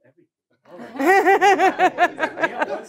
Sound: laughing

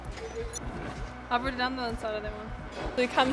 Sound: students talking

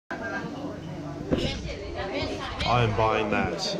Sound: crowd talking

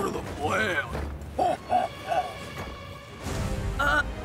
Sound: laughs

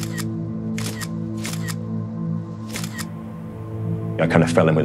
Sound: camera shutter repeats - schuck - schuck - schuck

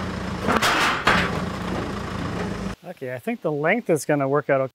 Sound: log clatters

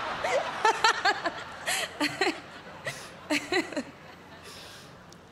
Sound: laughter; laughing

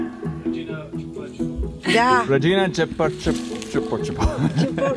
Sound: speaking Romanian

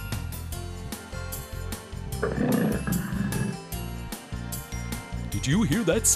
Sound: sound of a tiger

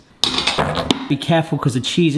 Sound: pan clatters

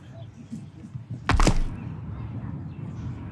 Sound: crunching thud

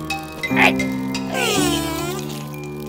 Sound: growls

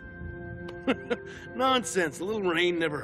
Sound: laughing

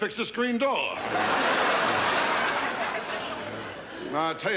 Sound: audience laughs

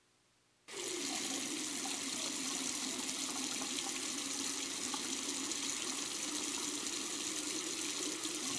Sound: water running

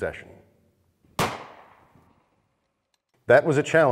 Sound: gunshot fires

